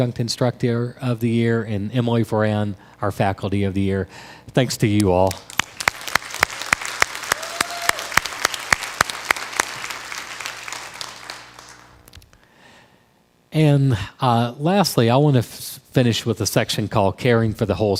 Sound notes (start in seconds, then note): 5.3 crowd applause